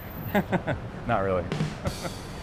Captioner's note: chuckles